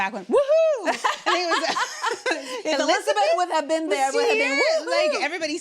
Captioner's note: laughing